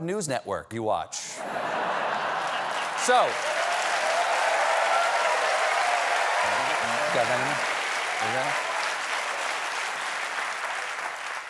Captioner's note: laughter; applause